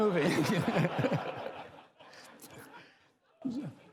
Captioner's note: laughter